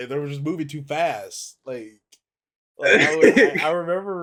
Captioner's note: laughs